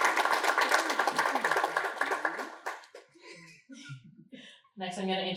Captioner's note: applause